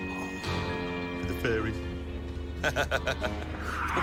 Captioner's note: laughs; tires screeching